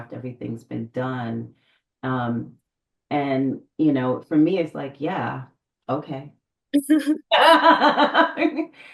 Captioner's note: laughs